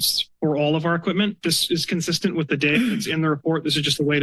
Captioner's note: clears throat